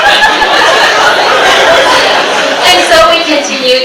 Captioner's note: audience giggles